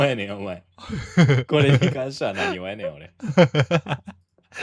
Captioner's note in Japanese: 笑い